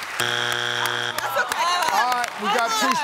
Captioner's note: audience groans